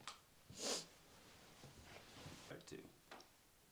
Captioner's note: Nellie sniffles